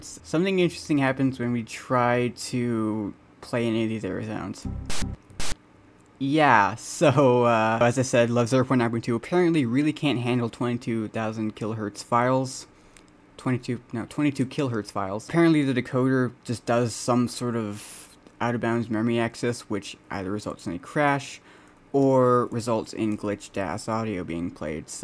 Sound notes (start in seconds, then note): 4.6 glitched Windows XP Critical Stop sound with intermittent noise